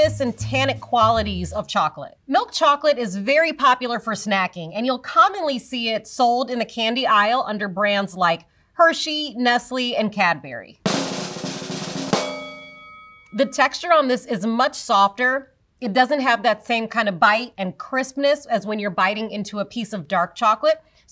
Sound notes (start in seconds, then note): 10.8 drum roll; 12.1 bell dings